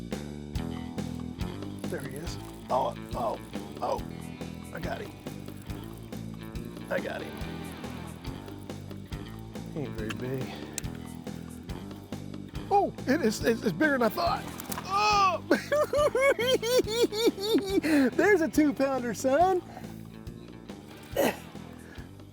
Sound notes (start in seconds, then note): 15.0 grunt; 16.4 cackling